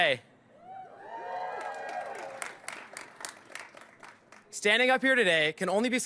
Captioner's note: applause